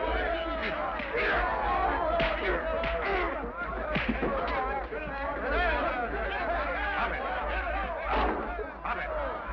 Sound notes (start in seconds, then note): 1.6 Dirk grunts; 1.6 fists smack; 6.2 men shout